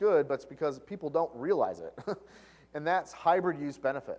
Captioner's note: laugh